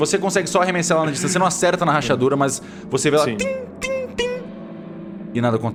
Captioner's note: tingling